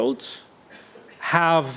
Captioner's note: coughs